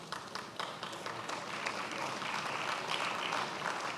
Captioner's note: attendees applauding